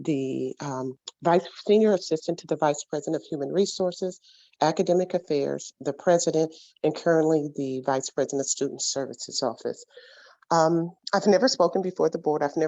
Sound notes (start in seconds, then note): none